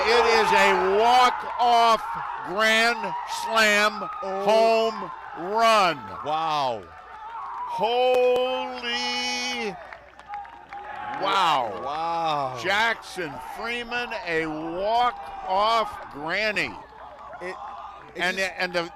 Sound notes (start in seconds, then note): 1.4 cheering